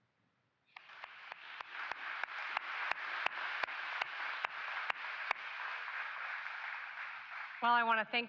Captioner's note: applause